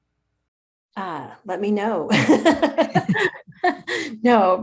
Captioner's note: laughs